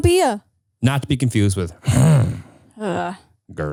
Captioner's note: grunts